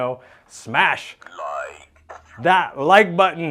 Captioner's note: robotic Voice